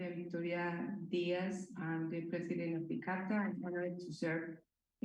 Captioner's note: speaking spanish